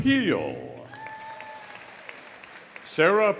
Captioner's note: audience applauding; audience cheering